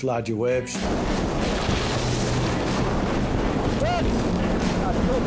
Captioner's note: waves roaring